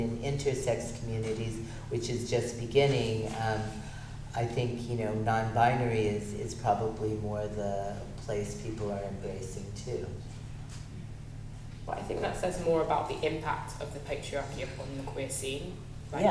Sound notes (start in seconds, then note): none